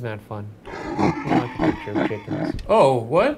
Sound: monster laughing sinisterly

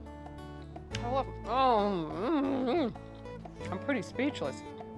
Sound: moans

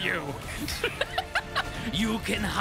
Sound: laughter

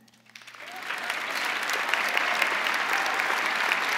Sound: crowd applauding

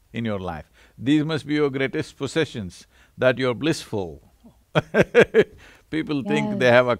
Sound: laughs

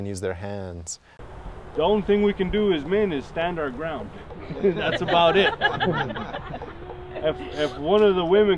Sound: laughing

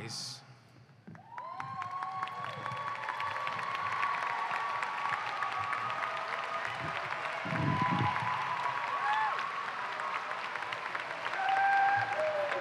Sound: applause and cheering

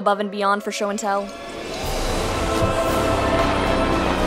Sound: faint sirens

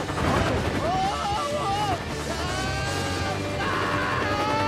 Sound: screams

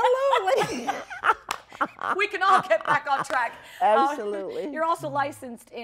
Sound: laughs

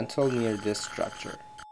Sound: long Mechanical Tone and Suctioning Sound

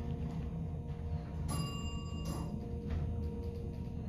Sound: bell dings to 3 / three

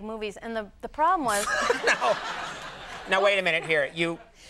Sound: laughing

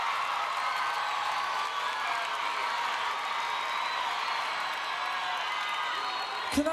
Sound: applause

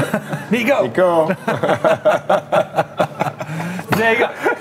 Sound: laughs

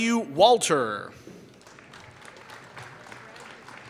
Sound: applause

